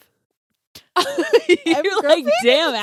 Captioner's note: laughing